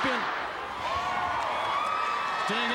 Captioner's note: crowd cheering